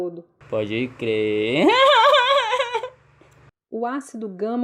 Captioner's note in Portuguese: risos